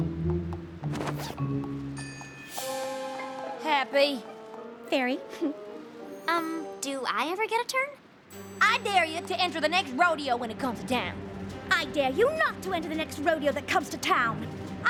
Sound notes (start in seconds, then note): 5.3 chuckles